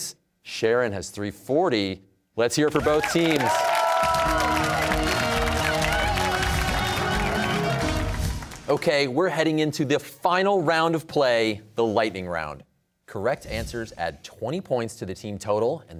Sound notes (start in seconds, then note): 2.7 cheers and applause